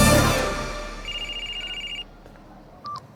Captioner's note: cell phone sounds